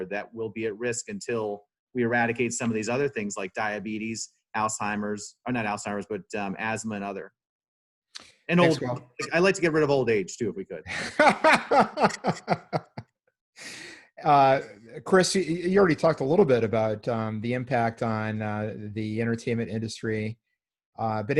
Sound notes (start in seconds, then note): 8.6 audio distorts; 10.9 laughing